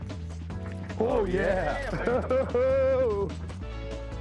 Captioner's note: laughs